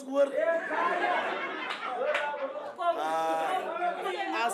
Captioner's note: laughter